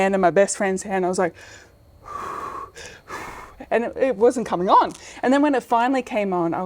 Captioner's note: breaths